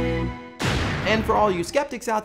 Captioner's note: explosion